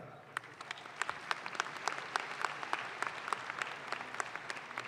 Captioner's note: audience claps